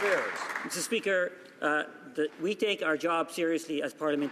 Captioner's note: some Applause